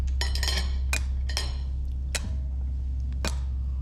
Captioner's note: spoon thudding